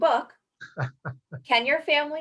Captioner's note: laughing